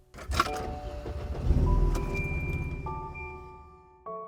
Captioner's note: clanging; engine rumbling